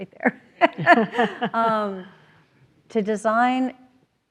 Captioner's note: everyone laughs